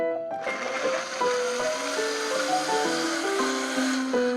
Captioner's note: whirring